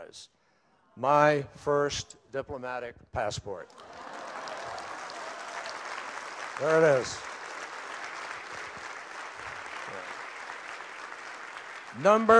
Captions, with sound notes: - my first diplomatic passport. (Applause.) There it is.